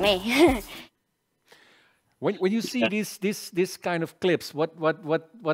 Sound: chuckles

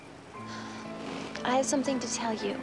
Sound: sighs

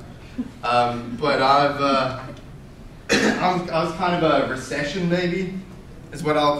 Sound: coughs

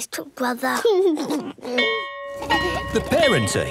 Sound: giggles; bell ringing

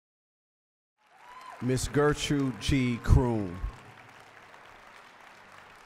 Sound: applause

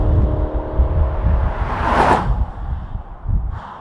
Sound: nissan flyby

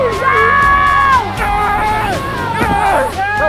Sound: grunting; cheering

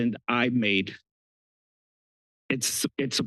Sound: pause

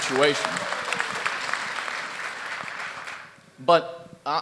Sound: laughter and applause

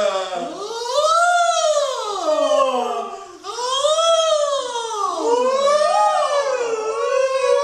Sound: indistinct chatter

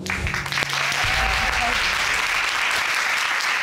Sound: applause

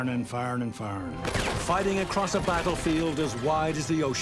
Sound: rapid gunfire exploding

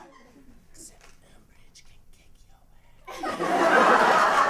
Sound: whispering

